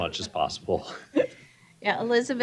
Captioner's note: chuckles